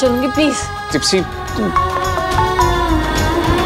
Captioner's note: Phone ringing